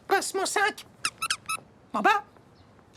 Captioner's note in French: grincement